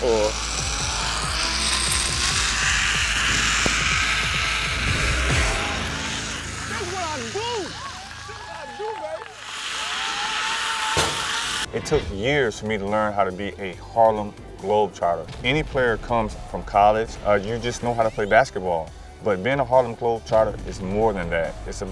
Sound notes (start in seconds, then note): 1.0 zip line screeching; 8.0 audience applauding; 9.8 zip line screeching; 10.9 basketball falling through rim and net